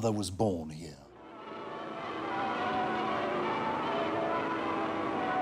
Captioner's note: bells tolling